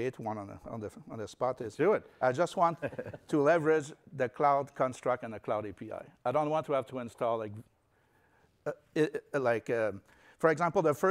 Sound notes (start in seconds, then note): 2.6 laughter